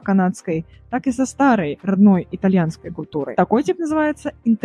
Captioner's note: Italian